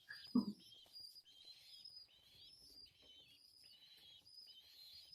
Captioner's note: chirping